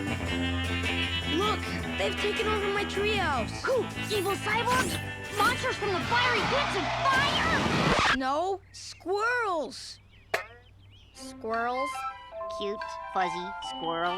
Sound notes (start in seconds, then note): 5.3 record scratch